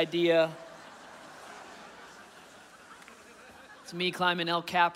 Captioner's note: audience laughing